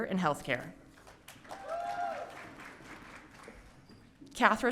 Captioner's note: audience cheering